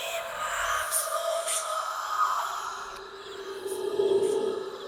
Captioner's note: ghost Voices Whispering Continues